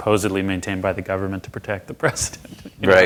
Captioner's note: laughs